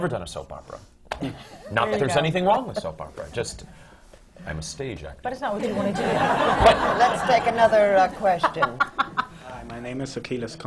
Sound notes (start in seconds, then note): 3.9 deepens his voice; 7.3 laughter